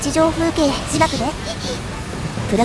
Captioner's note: laughs